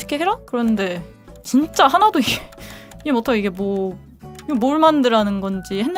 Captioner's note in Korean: 헉 소리